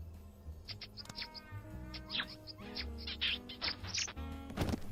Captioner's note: loud Kissing